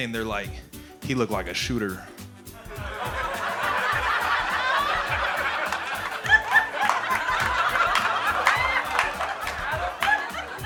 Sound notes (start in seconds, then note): 2.6 audience laughing